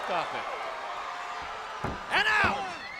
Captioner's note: crowd cheering